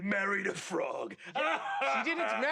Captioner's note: laughing